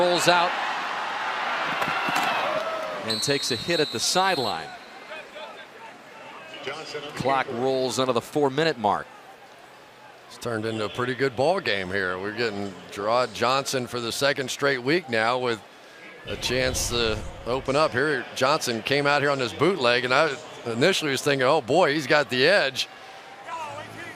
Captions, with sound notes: Johnson rolls out and takes a hit at the sideline. [pa announcement] Clock rolls under the 4-minute mark. It's turned into a pretty good ball game here. We're getting Jerrod Johnson for the second straight week now with a chance to open up here. Johnson came out here on this bootleg. And I initially was thinking, oh, boy, he's got the edge.